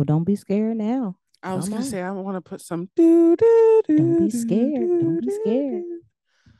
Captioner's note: hums Jeopardy Theme